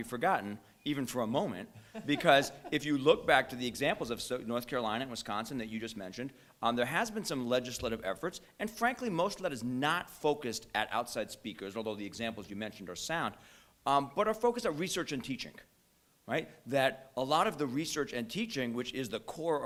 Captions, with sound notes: forgotten, even for a moment, [laughter] because if you look back to the examples of North Carolina and Wisconsin that you just mentioned, there has been some legislative efforts, and frankly most of that is not focused at outside speakers, although the examples you mentioned are sound. But our focus are research and teaching, right, that a lot of the research and teaching, which is the core,